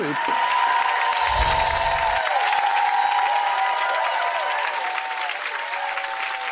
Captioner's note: audience applauding; twinkling music